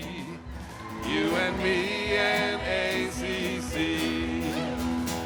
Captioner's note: attendees applauding